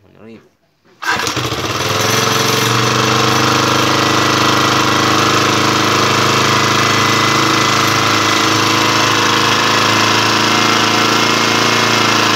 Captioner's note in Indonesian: bunyi mesin